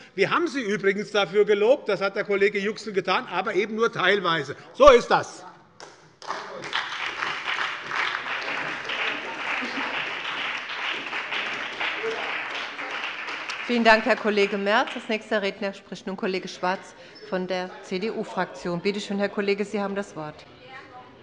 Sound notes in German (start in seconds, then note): 6.2 Beifall bei der SPD, der LINKEN und der FDP